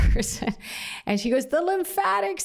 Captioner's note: laughter